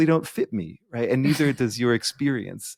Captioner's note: chuckling